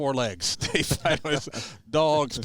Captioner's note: chuckles